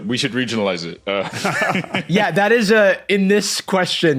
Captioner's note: guys laughing